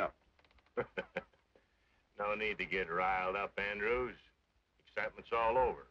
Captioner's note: chuckles